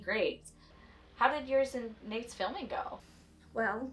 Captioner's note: voice on phone